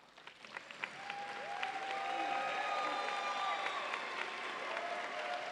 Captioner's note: audience applauds and cheers